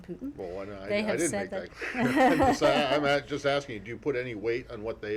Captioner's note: laughter